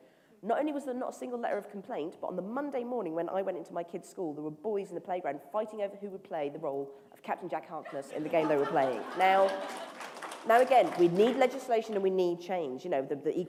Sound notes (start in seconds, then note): 10.0 laughter; 11.0 applause